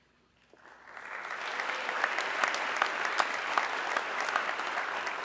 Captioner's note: audience clapping